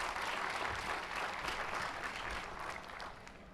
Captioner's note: applause